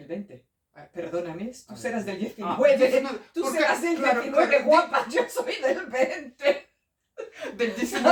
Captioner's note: laughter